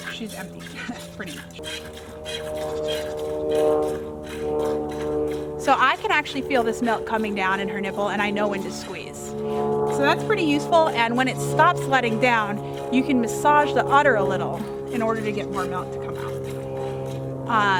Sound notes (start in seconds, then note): 1.7 airplane engine overhead